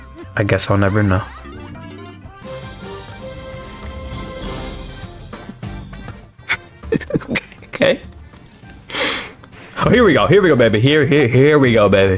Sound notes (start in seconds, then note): 6.4 laughs to myself; 8.0 sniffs Oxygen